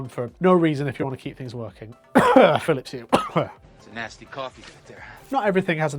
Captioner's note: cough